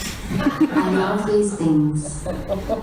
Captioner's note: audience laughs